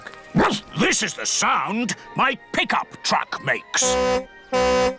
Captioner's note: barks; tooting